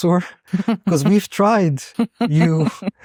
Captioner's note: chuckles